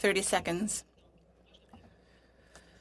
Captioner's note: speaking French